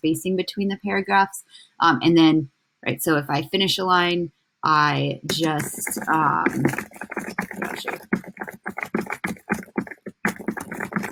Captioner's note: typing in document